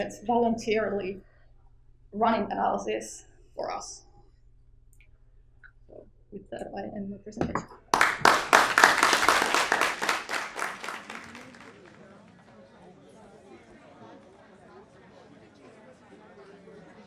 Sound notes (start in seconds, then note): 7.9 audience clapping; 11.3 audience chattering